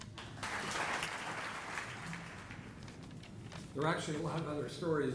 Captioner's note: audience applauding